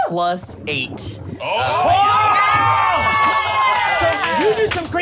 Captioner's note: excited screaming